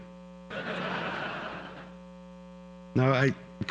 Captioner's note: audience laughter